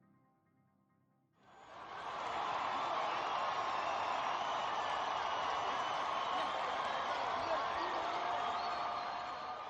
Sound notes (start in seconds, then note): 1.4 cheering